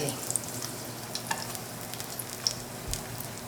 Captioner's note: pan sizzling